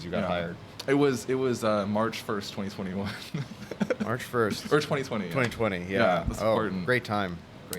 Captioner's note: laughs